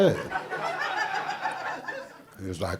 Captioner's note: audience laughing